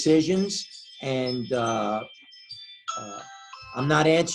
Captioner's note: phone rings